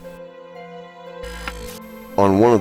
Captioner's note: static fizzing